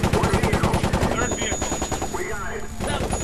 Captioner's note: gunfire